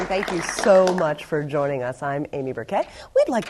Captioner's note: applause